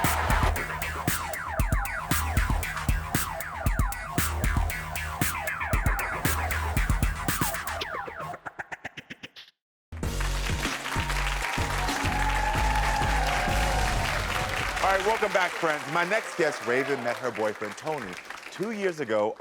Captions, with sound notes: (lighthearted music) (audience applaud) All right, welcome back friends. My next guest, Raven, met her boyfriend Tony, two years ago